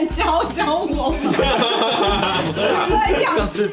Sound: haha haha haha~

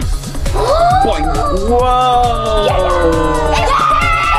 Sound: everyone gasping

